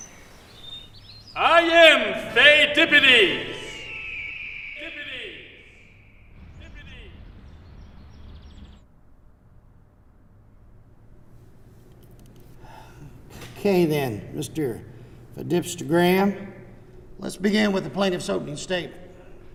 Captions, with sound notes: - I am PHEIDIPPIDES!!! (eagle screeches) (echo) (echo) - Okay then, Mr. Pheidip-stagram, let's begin with the plaintiff's opening statement.